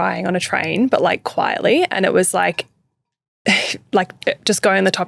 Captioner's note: titters